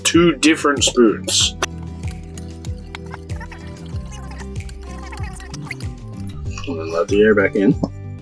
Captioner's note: sped up talking